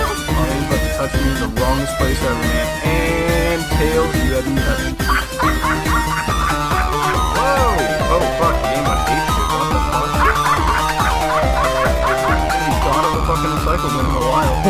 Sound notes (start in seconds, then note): 4.9 pedophilic Laughter